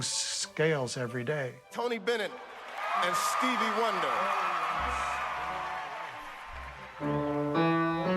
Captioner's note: cheering and applause; vocalizing along to piano notes